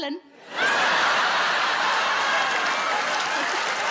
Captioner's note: audience laughs